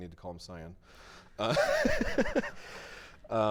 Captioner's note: chuckling